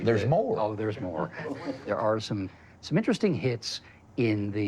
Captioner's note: chuckling